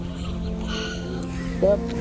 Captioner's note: sighs